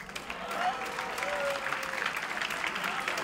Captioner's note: clapping